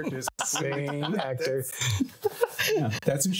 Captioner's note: laughing